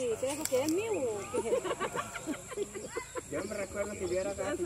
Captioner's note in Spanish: risas